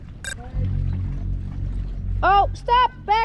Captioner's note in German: Piepen